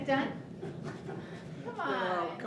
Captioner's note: laughs